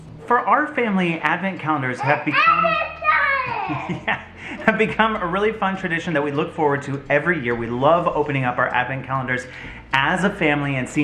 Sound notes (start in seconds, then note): 3.0 laughs